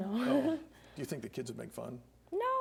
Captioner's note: laughs